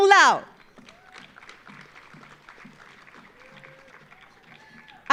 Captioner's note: audience applauding